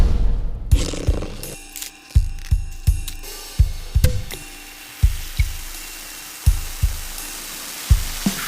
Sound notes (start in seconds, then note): 0.4 casual music; 4.2 pops; 5.0 fizzes